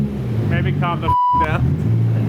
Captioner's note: beep